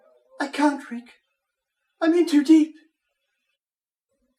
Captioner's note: none